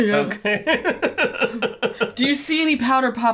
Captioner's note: laughter